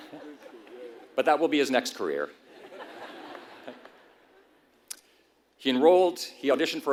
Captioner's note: laugh; laugh